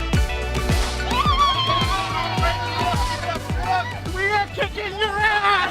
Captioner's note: cheering